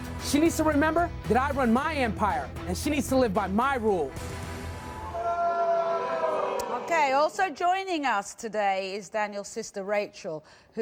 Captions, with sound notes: - She needs to remember that I run my empire and she needs to live my rules. (crowd booing) - Okay, also joining us today is Daniel's sister, Rachel,